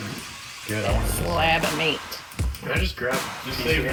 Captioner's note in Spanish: charla indistinguible